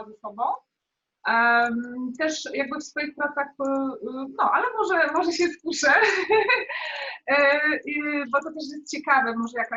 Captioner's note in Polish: śmiech